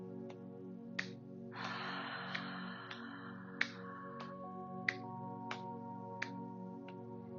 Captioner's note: hands tapping; hands tapping